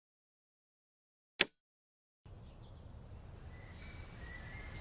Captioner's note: birds chirping